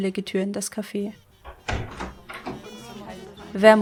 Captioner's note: door opens, voices talk and music plays